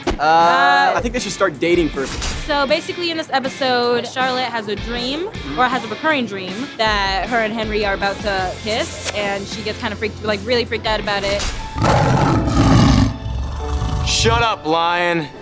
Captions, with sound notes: Er... I think they should start dating first. So basically in this episode, Charlotte has a dream, or has a recurring dream that her and Henry are about to kiss. And she gets really freaked out about it. [roaring] Shut up, lion!